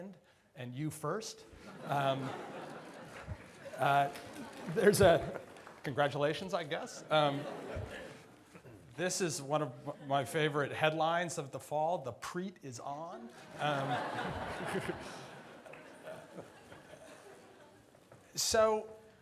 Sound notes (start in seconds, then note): 1.6 audience laughs; 6.9 audience laughs; 13.2 audience laughs